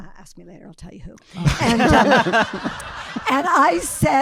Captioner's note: audience laughing